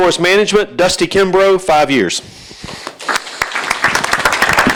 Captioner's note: applause